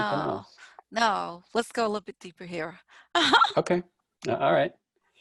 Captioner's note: laughs